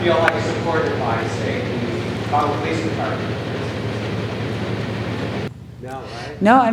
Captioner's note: faintly speaking